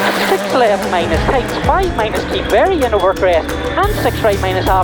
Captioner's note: engine revving